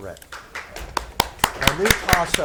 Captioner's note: spectators clap